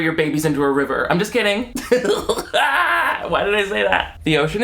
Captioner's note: laughs